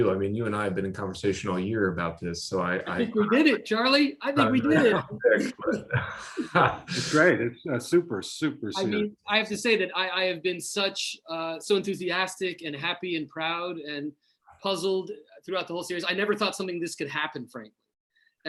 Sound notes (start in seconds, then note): 6.1 laughter